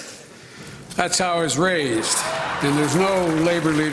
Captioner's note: laughter